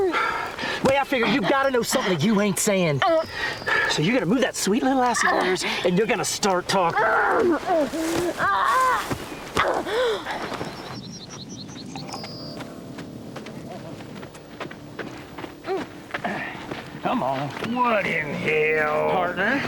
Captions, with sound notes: and you're gonna start talking. (Promise grunts) (footsteps approaching) Come on. - What in the hell? - Partner, I got me this fily here, 'cause I'm tired of you always be behind the eight ball.